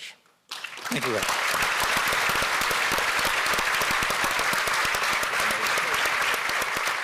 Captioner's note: audience applauding